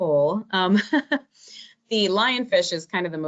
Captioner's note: laughing